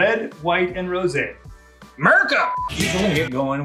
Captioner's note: beep